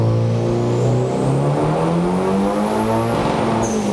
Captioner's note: engine revving